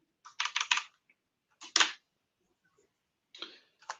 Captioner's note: typing